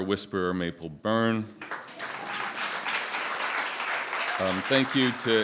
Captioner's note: applause